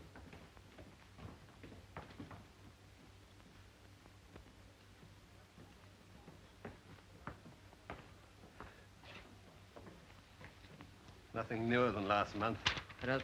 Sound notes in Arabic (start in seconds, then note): 0.0 خطوات الرجال على الدرج; 6.6 خطوات على الدرج